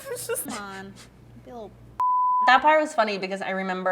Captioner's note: beep